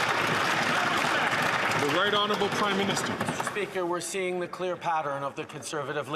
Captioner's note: some Applause